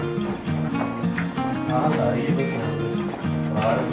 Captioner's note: footsteps